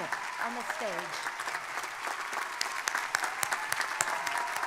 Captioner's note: crowd applauding; crowd cheering